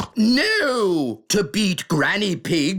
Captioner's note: snorts